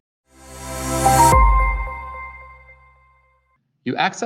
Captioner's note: bright chime